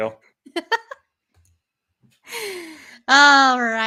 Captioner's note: laughing